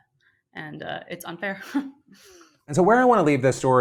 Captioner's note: scoffs